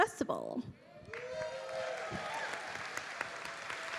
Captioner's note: audience cheering